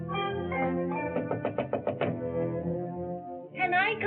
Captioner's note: knocks on door